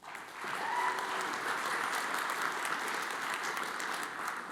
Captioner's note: audience applauds